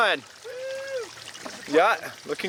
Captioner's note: cheering